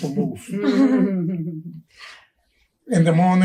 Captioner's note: all chuckling